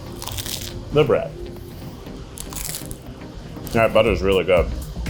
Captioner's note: bread crunching